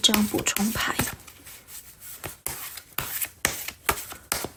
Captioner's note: drawing cards